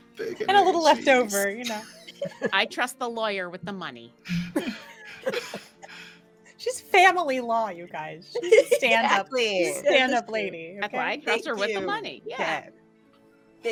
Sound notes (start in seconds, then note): 0.0 laughing; 1.6 all laughing; 4.3 all laughing